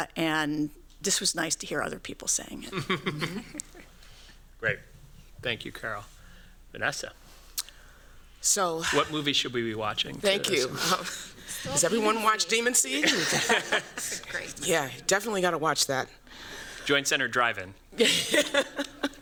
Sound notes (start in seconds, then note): 12.9 laughter; 17.9 laughs